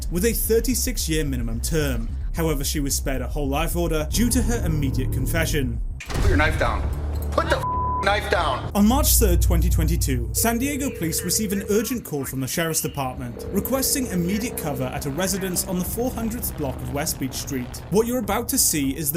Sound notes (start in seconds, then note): 7.6 beep